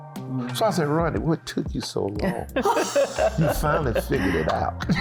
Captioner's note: laughing